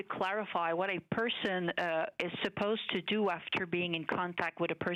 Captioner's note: speaking French